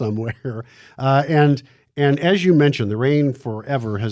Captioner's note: laughs